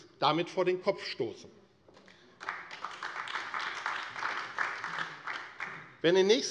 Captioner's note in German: Beifall AfD